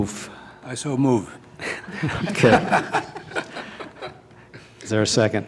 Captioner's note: laughter